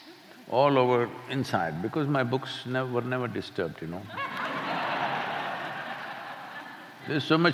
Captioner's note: laughter